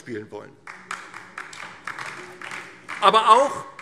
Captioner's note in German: Beifall DIE LINKE